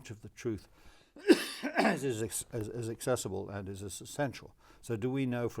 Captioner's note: coughs